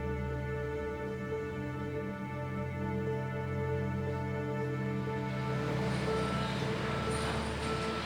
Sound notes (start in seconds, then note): 4.4 construction noises begin